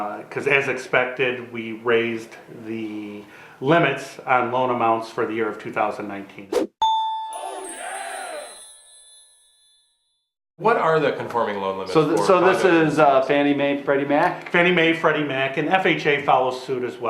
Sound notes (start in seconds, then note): 6.8 bell dings